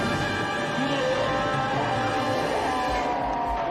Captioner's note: roaring